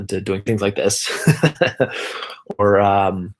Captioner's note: laughing